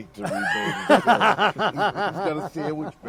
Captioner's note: laughing